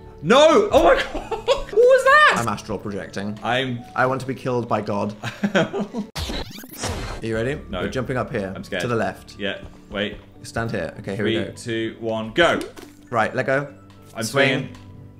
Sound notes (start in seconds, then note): 0.8 laughs; 5.2 laughs; 6.2 fast forward sound effect